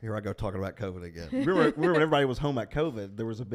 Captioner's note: laughs